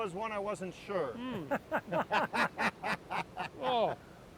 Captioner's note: laugh